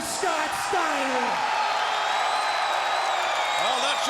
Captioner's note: crowd cheering